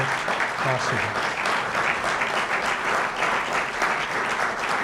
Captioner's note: applause